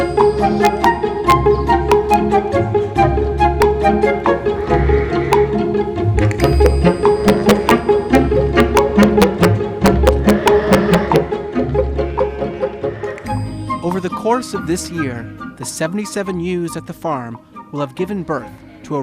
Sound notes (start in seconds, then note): 2.5 sheep baaing; 2.5 whimsical music